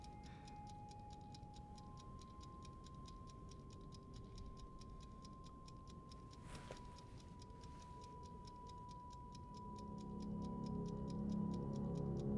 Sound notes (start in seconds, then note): 0.9 mysterious music; 0.9 timer ticks; 9.7 ominous music